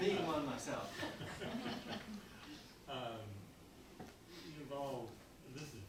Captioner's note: audience laughing